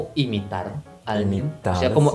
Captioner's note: Spanish